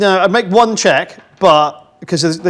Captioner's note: none